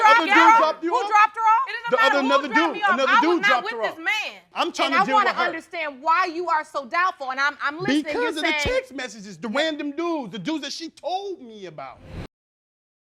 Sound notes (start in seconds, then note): none